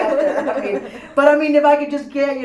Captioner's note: all laugh